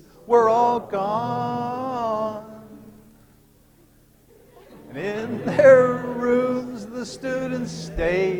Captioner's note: laughter